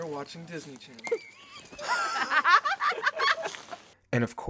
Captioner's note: all laughing